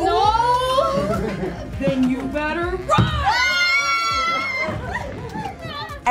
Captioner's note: actors scream